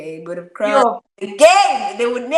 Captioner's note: exclaims